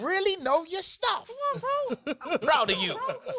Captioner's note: chuckles